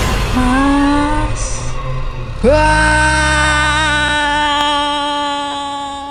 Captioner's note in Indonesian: berteriak